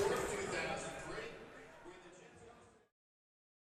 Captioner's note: stadium announcements